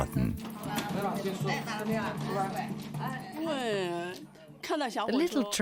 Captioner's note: speaking in foreign language